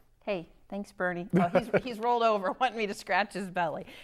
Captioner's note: laughing